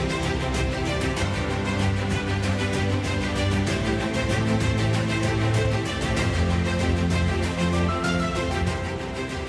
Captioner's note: applause